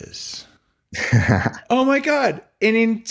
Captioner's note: laughing